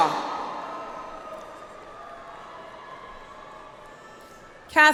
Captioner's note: audience applauds